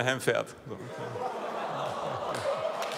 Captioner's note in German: Lachen